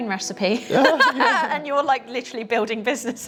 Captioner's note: laughing